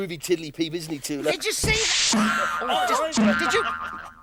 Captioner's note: yelps